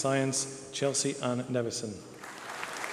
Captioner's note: applause